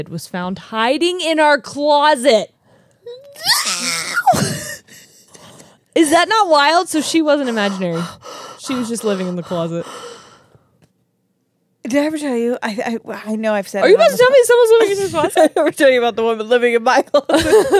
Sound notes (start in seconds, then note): 3.3 imitates screaming; 6.9 breathes heavily; 14.8 laughs